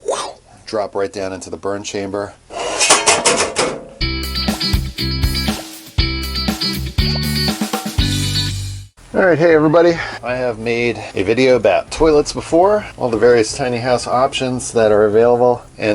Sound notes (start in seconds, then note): 2.7 metal clanking; 4.0 upbeat music